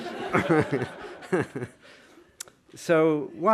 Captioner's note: laughter